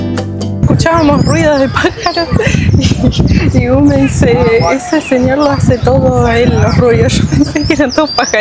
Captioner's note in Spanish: risas